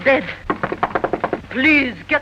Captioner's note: knocks on door